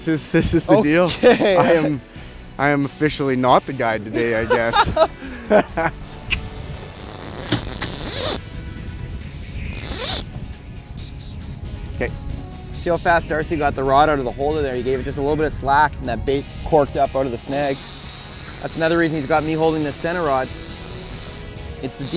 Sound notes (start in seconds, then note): 6.0 laughing; 7.2 reel whirring